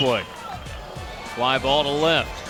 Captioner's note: bat hits ball